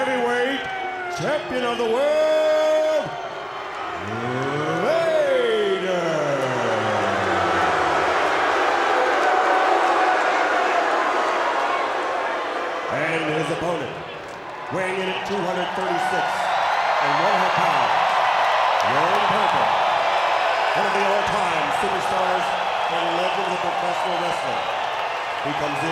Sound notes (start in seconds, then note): 6.9 crowd booing